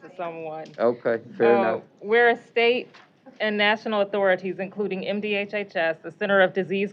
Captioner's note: laughing